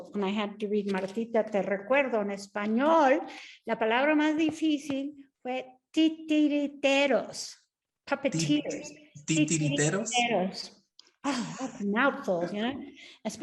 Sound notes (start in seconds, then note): 2.2 speaks Spanish; 3.9 Sandra speaking Spanish; 8.6 speaking Spanish; 9.6 speaks Spanish